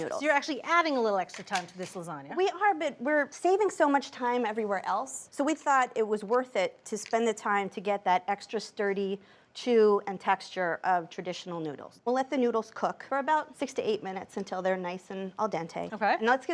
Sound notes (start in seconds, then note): none